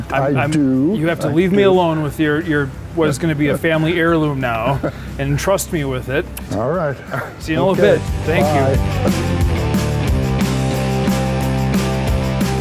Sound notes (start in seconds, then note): 6.4 laughs; 9.3 upbeat music